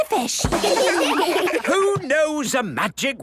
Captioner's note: children laugh